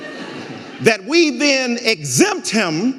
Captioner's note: audience laughing